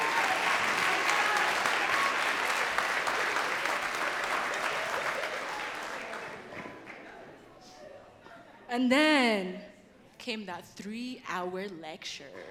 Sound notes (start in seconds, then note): 0.0 audience cheering and clapping